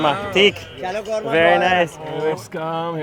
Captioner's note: speaks foreign language